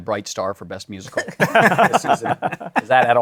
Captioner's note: laughter